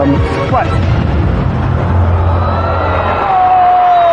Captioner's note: audience sighing in shock